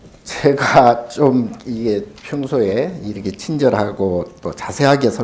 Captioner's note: speaking Korean